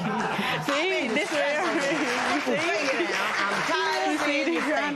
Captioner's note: cheers and applause